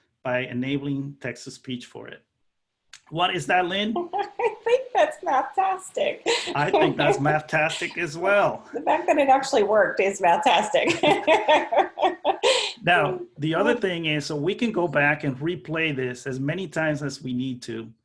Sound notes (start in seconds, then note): 5.9 laughing; 10.7 laughing